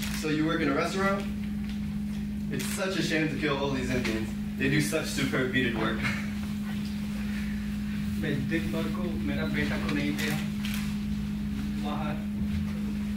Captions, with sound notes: So, you work in a restaurant? It's such a shame to kill all these Indians. They do such superb beaded work. (speaks in foreign language)